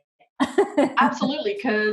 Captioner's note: laughing